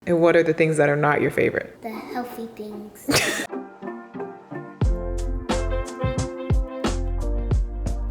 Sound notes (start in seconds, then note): 3.0 laughs; 3.1 gentle music